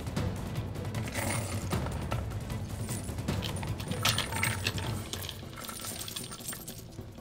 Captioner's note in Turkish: Altın sesleri